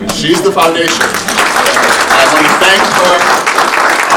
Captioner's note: audience applauding